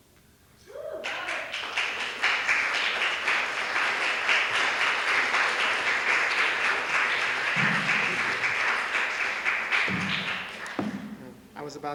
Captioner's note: applause